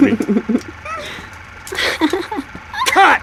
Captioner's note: laughing